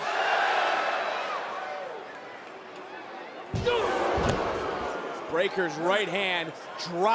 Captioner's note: crowd cheers